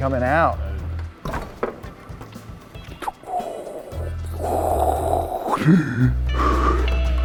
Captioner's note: inhaling; upbeat music